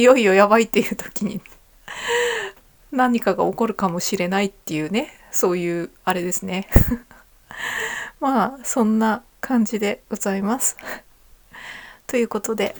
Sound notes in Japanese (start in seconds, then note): 1.9 息をのむ音; 3.0 笑い